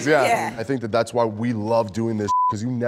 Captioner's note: beep